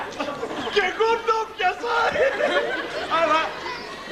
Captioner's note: γέλιο